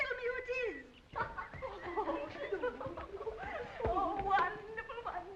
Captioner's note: girls giggling